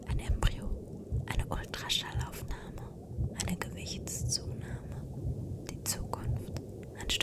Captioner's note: whispered